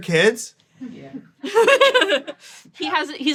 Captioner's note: laughs